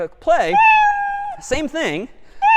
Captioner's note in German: meow